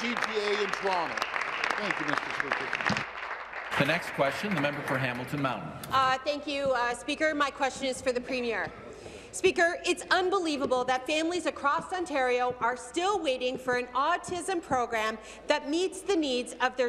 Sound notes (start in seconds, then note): 6.4 applause